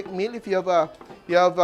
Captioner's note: sizzles